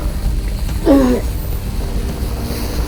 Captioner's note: struggles to breathe